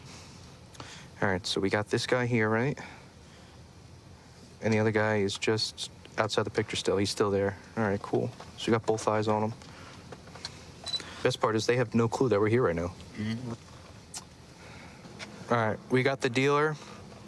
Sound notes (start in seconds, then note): none